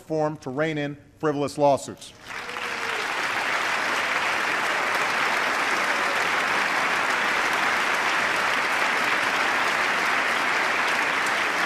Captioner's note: applause